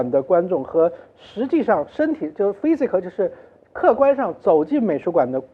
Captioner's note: none